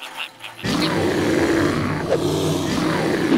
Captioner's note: bear growling